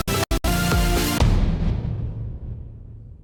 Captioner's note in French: Boum